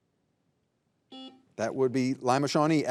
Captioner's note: buzzer buzzing